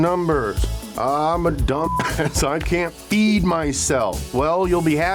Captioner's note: beep